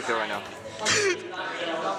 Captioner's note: sobs